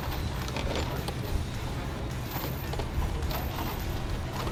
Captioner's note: metal clinging